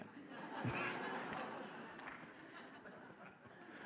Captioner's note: audience laughs